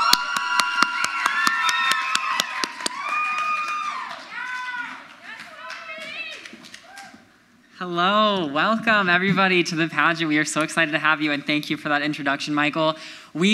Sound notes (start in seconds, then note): 4.5 crowd member yells